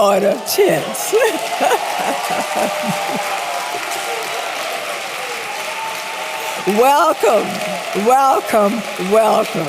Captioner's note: applause